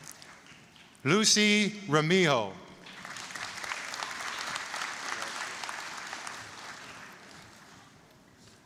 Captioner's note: applause; applause